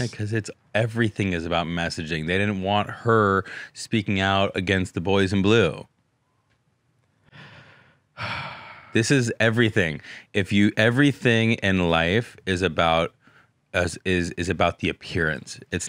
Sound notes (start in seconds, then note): 8.2 sighs